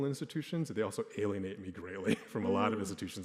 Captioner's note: chuckles